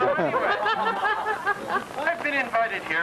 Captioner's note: laughter